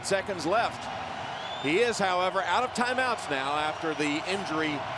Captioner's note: crowd cheering